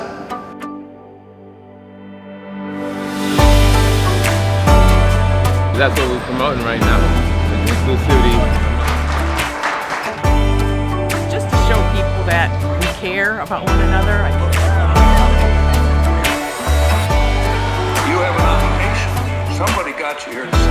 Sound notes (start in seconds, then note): 9.5 applause